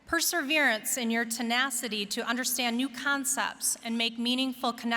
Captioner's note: none